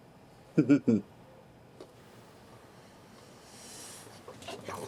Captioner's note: Billy Ray chuckles